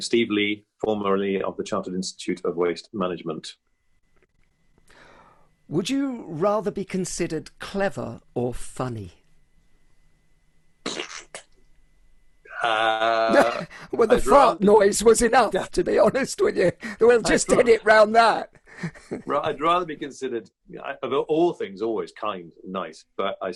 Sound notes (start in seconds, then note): 12.5 raspberry noise